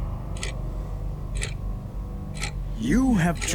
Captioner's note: loud metallic ticking sound